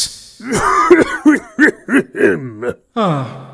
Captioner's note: ah-HHHHEM!